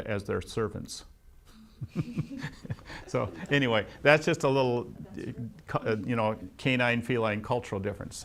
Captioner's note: laughs